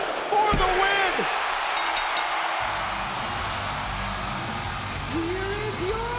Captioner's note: spectators cheering; bell ringing